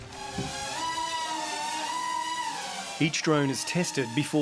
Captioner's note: drone buzzes